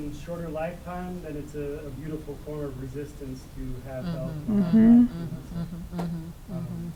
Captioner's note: voice muffled